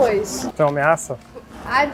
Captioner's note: crew member speaking Portuguese